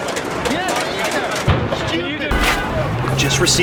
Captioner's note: yelling